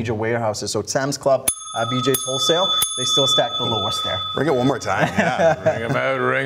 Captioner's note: the ^bell rings¸